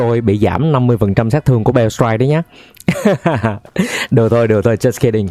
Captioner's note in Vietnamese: tiếng cười